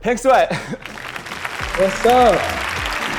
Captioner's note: applause